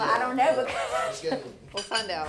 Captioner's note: laughs